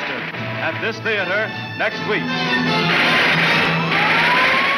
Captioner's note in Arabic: إطلاق نار; صافرات الإنذار تنطلق